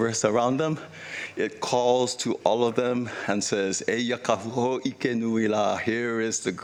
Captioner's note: speaking Hawaiian